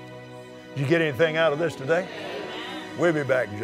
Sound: audience Agrees

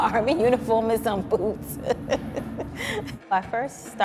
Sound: laughs

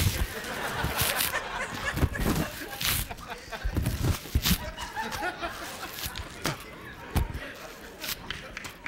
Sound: laughter

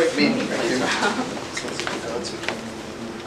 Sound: indistinct conversation

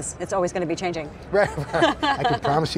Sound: laughing

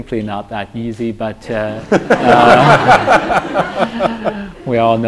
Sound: laughter

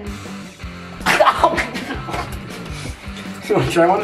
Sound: laughter

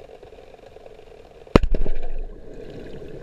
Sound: explosion

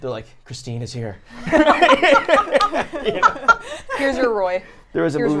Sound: laugh

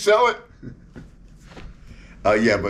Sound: interviewer laughing

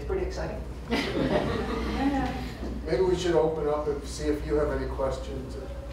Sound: laughter

